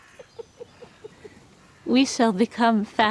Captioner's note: chuckles